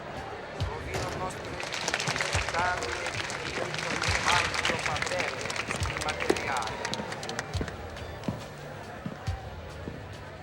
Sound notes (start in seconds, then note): 0.6 applause